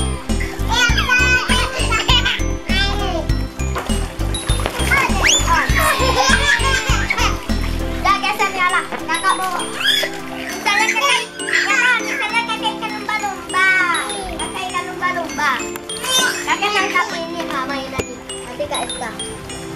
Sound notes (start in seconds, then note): 5.5 laugh of loud